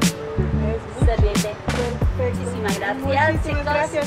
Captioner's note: in Spanish